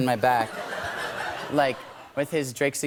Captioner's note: light laughter